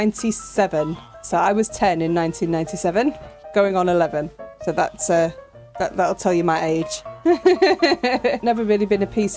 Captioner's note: laughing